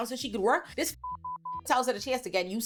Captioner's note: beep